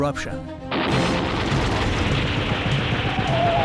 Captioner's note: gunshots